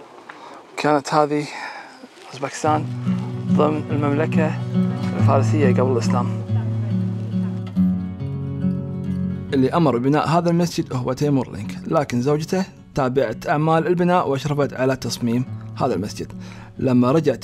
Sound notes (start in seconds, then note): 7.0 calm music; 9.6 speaking foreign language